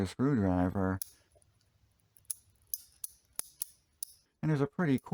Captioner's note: ratchet sounds